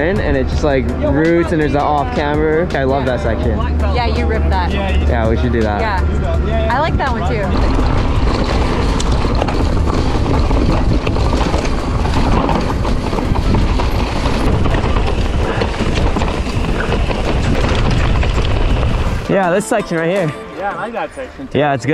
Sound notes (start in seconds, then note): 8.1 bike tires rumbling; 8.1 wind rushing